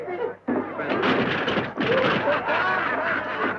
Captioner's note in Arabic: تحطم الكرسي; الزبائن يضحكون